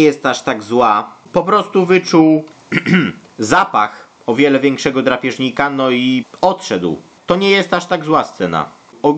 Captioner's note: cough